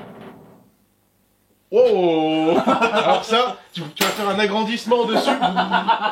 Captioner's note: laughs